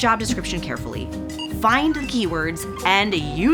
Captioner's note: scanner beeps; chime sounds